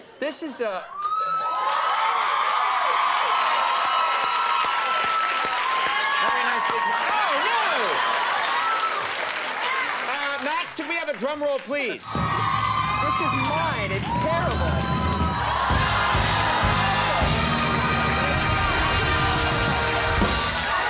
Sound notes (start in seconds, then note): 1.8 audience cheering; 12.8 drum roll; 15.7 audience cheering